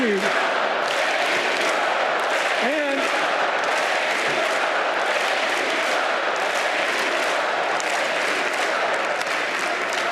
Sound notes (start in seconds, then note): 4.8 applause; 9.5 crowd chanting